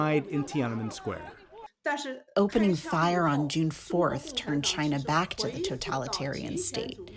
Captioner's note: through translator